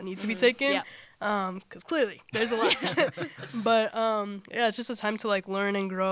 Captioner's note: laughter